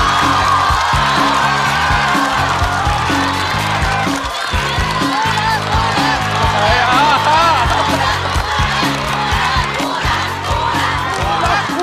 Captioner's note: applause